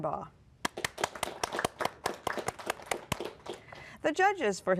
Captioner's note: applause